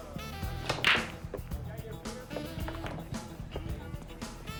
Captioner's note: balls clacking